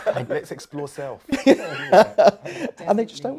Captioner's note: chuckles